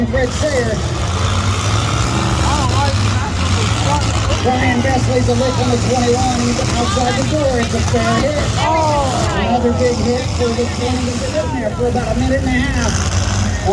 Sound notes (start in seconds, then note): 2.3 engine noise, crowd noise; 8.6 crowd